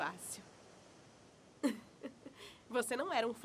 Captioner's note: chuckle